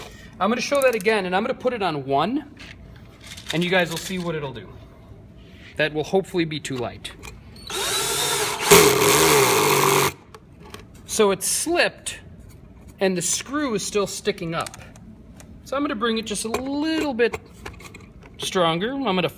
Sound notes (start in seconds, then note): 7.6 whirring